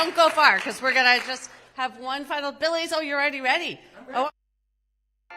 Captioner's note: applause